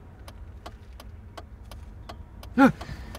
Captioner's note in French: bruits de warning